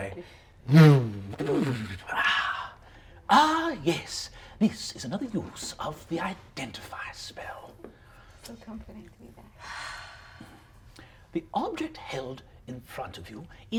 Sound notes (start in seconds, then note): 0.7 mimics crackling; 9.6 sighs